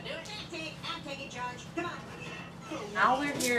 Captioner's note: TV playing